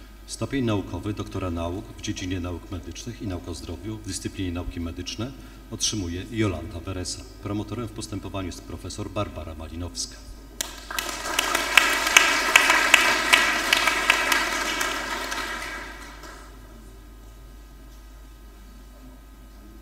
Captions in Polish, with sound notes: Stopień naukowy doktora nauk dziedzinie nauk medycznych i nauk o zdrowiu w dyscyplinie nauki medyczne otrzymuje Jolanta Bereza. Promotorem w postępowaniu jest prof. Barbara Malinowska. [oklaski]